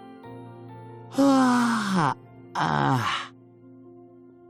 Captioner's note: ya~wn